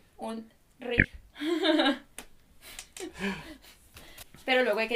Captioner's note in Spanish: Risas